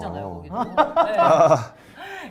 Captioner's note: laughs